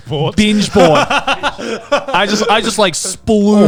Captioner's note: laughs